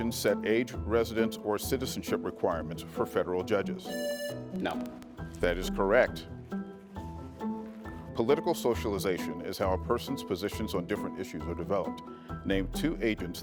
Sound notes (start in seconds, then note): 3.9 buzzer buzzing; 7.1 lively music